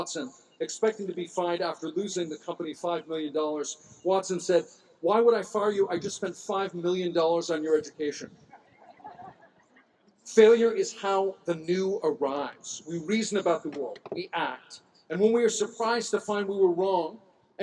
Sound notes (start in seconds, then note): 8.5 laughter